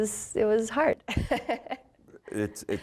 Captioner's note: laughing